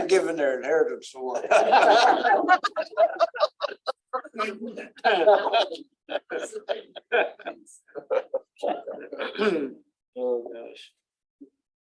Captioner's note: laughter